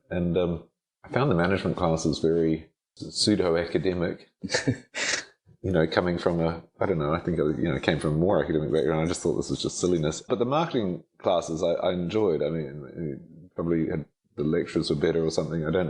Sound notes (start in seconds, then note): 4.4 chuckles